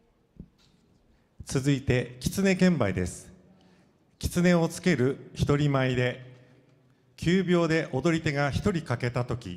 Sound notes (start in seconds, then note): 1.5 speaking foreign language